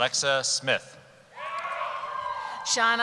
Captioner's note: cheering